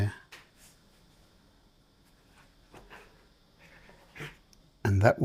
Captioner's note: silence